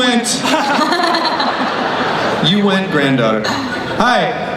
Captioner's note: laughing